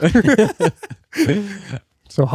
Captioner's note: laughing